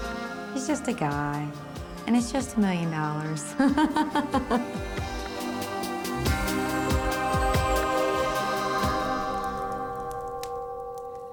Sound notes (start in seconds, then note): 3.3 upbeat choral music; 3.4 laughs